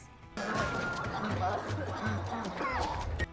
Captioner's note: kids coughing